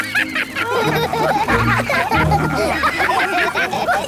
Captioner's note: all laugh